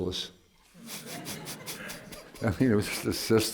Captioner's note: laughter